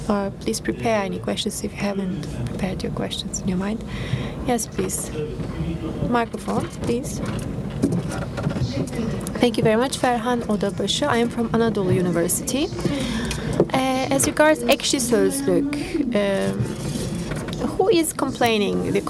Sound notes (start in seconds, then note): 7.1 speaking foreign language